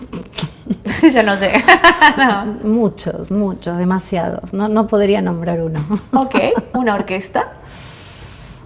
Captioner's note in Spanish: risas